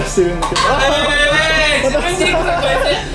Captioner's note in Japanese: 紙コップが落ちる音